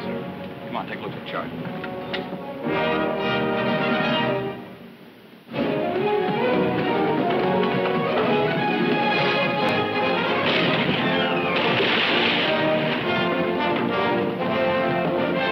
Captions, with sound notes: - Aye, sir. - Come on, take a look at the chart. (dramatic orchestral music) (cannon firing)